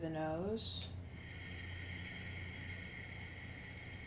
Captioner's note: exhales